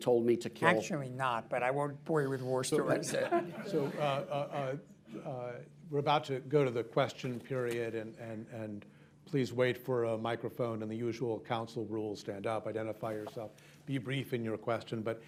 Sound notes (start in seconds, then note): 4.5 laughter